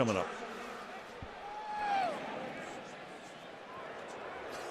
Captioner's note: pa announcement